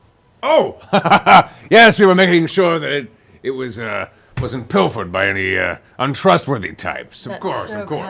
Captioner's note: laughs